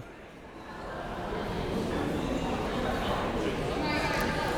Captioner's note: crowd members talking